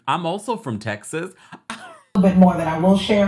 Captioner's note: laughs